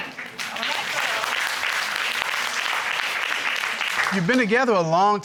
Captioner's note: audience applauding